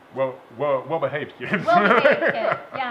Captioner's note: laughing